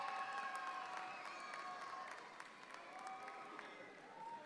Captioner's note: audience applauds